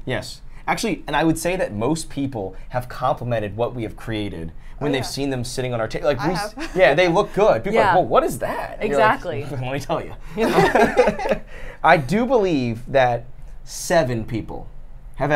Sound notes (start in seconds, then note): 10.3 laughs